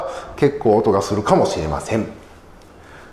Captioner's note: siren